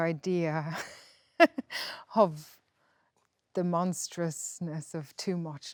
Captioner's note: laughs